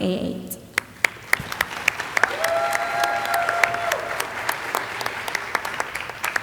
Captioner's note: audience applauding and cheering